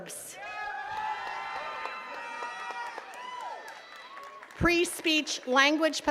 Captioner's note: attendees cheering and clapping